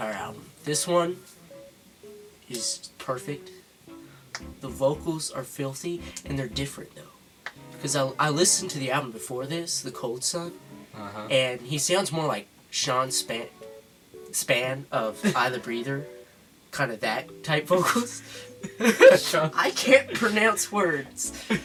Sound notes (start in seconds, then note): 12.6 the goblin stutters; 18.6 jeers back